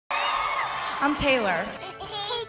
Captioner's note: crowd cheering